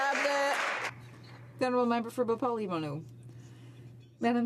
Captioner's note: some Applause